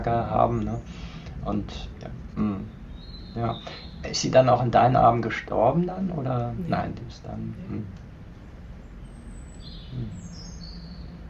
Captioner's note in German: räuspern